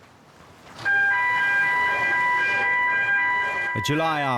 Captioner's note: siren blaring